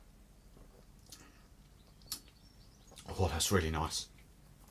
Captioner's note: smacks lips